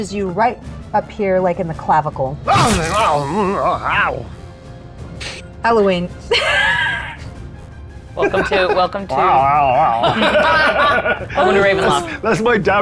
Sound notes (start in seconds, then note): 2.5 moans; 8.2 chuckles; 9.8 everyone laughs